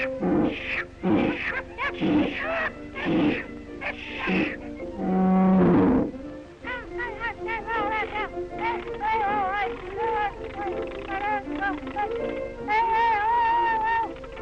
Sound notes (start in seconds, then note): 0.0 roaring; 2.3 Felix whimpers; 7.5 babbling